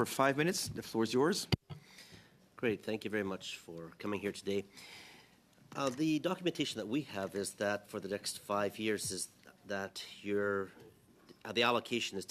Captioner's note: speaking French